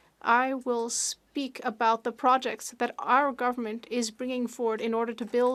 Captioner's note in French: voix de l'interprète